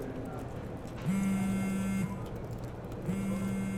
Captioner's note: mobile vibrating